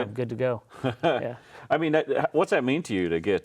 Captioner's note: laughs